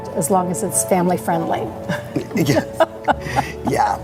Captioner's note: laughing; laughs